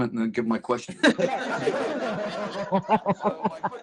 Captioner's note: laughter